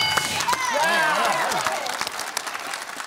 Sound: bell dings; applause

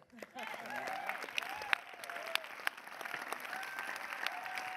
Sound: audience applause

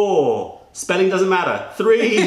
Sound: laughter

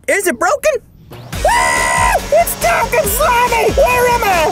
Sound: screams

